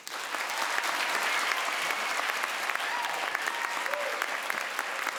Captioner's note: crowd cheers and applauds